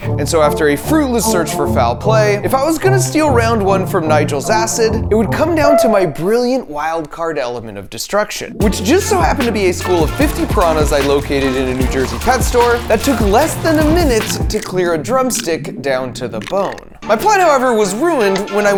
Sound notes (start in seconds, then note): 9.3 water bubbling; 10.4 piranas rustling; 12.8 bone cracking